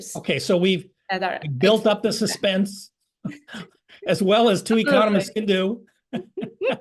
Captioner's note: laugh